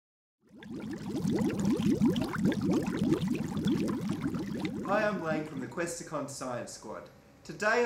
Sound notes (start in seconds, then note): 0.4 sound of bubbles popping